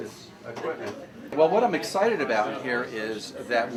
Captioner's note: loud crowd chatter